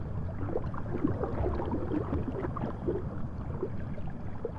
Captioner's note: water sloshes